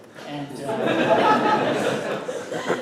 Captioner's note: laughter